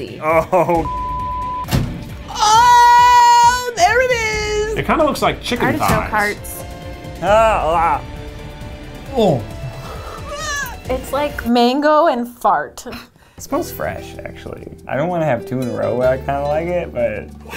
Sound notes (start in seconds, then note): 0.8 beep; 7.3 man growls softly; 10.2 lady gags